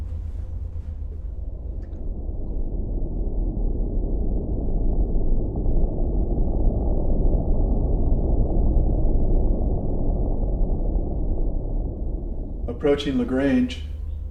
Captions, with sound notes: (eerie atmospheric music) (spaceship whirring) - Approaching the grange.